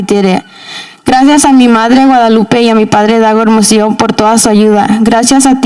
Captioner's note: speaking in Spanish